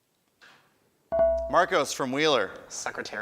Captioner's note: buzzer chimes